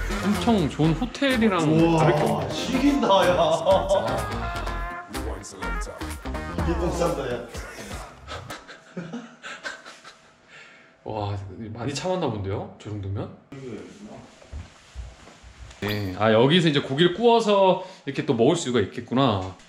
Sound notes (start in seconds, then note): 7.4 laughs